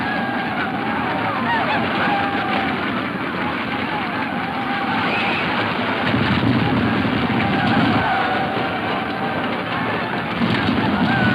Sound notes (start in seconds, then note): 7.5 hooves thudding